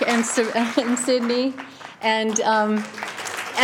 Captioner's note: applause